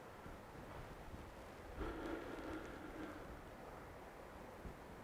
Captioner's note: Mercer exhales softly